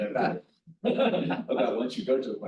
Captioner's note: chuckles